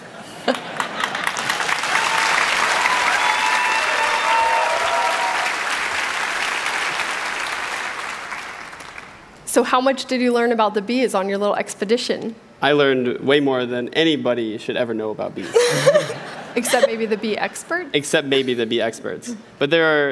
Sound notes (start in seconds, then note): 6.8 applause